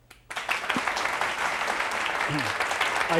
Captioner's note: audience claps